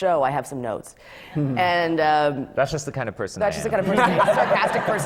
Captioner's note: laughter